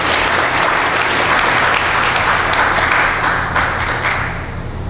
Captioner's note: applause